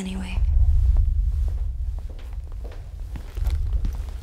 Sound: footsteps

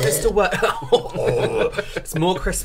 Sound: excited Vomit Sounds

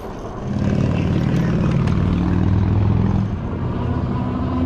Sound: motor whooshing

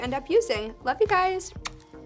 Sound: smacks lips

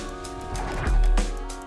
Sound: music ramps up; spin swoosh

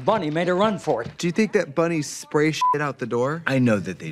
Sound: beep

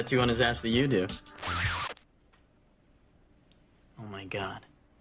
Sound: record scratch

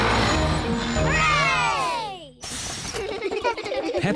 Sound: all cheer

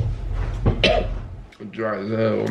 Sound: coughs

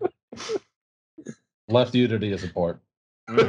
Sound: laughter

